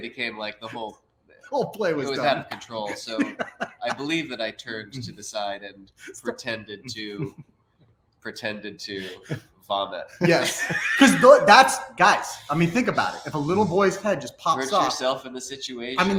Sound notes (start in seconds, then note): 2.7 laughs; 10.2 laughs